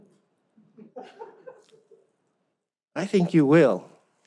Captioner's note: audience laughs